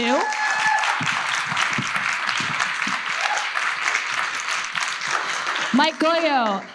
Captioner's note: audience cheers and applauds